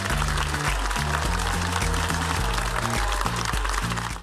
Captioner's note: audience applauding